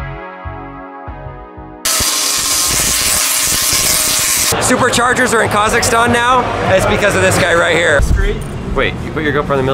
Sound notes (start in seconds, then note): 1.8 electricity buzzing